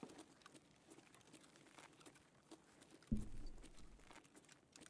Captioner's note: footsteps